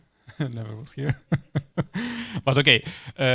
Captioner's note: laughs